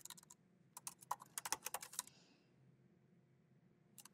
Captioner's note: keyboard clacking